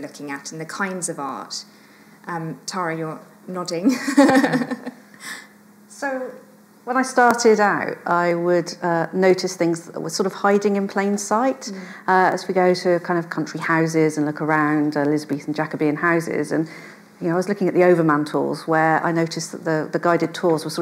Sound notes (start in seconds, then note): 3.9 chuckles